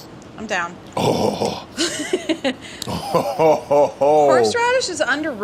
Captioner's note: Deandre grunts